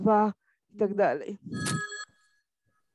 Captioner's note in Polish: dzwoni telefon